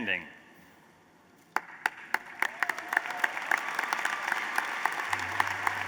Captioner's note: applause